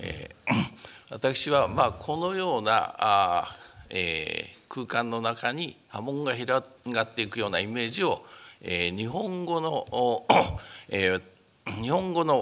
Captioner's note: speaking japanese